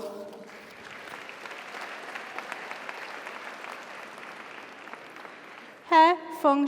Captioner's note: audience applauds; audience cheers